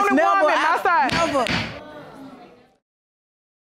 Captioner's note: gavel pounds